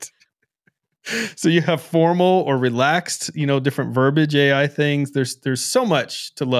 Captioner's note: laughs